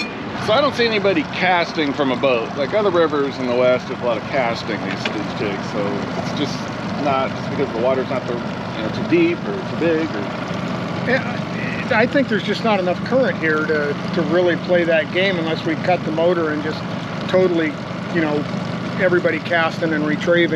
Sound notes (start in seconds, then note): 0.9 chuckling